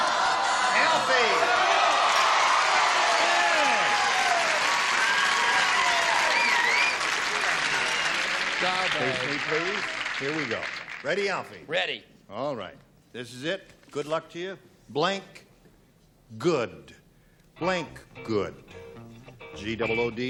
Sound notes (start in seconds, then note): 6.1 cheering